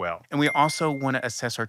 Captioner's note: bell chiming